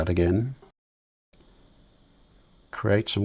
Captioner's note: silence